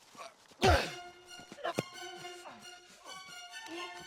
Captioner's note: axe thuds